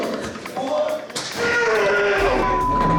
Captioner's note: grunting